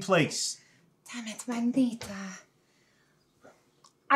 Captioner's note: speaking in foreign language